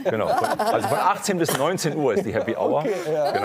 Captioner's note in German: Lachen